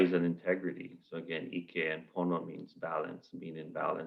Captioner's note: non-english